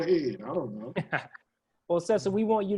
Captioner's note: laugh